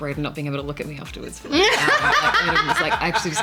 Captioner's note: laughter